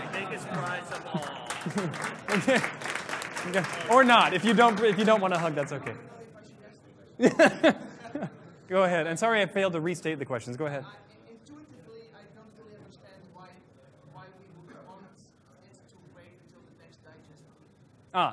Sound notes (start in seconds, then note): 3.4 applause